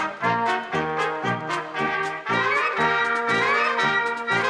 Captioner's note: orchestral music; applause; orchestral music